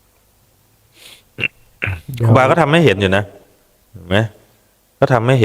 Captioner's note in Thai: เสียงสูดหายใจ